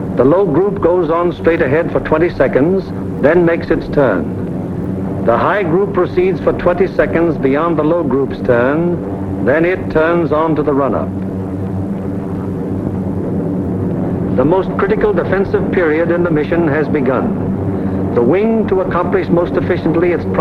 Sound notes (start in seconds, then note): 12.6 plane engines humming